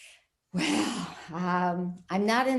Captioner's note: sighing